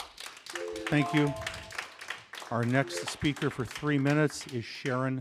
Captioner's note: applause